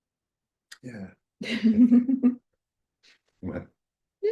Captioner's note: chuckling